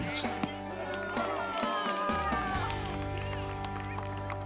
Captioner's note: cheers; baseball hit